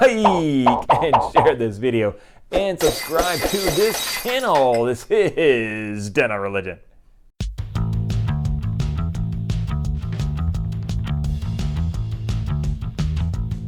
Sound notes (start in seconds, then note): 0.0 popping noises; 2.8 glass breaking